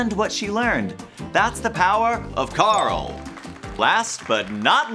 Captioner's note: crowd clapping